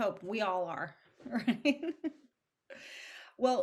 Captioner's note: chuckles